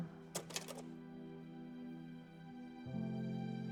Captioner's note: projector clicks